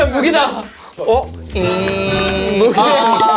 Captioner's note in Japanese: ジャ～ン